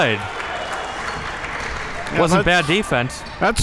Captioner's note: audience applauding